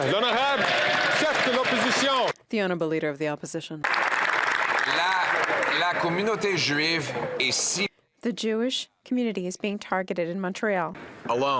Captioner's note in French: applaudissements